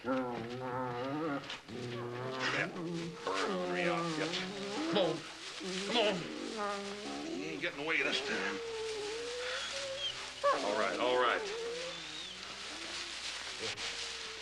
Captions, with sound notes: DAD-BURN ORNERY OUTFIT. COME ON. COME ON. YOU AIN'T GETTING AWAY THIS TIME. ( dogs whimpering ) ALL RIGHT, ALL RIGHT.